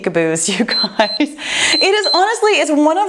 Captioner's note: timer beeps